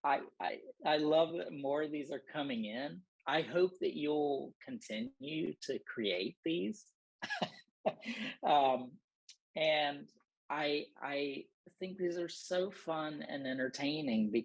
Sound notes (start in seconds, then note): 7.2 laughter